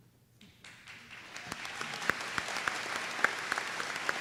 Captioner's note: applause